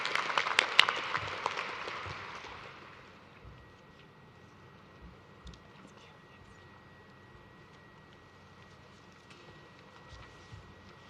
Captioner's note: applause